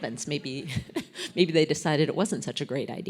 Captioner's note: laugh